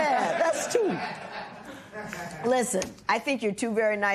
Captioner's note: laughter